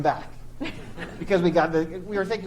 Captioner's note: chuckles